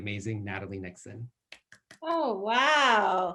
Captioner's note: applauding